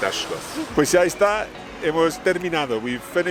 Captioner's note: speaks in foreign language